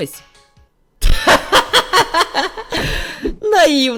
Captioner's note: laugh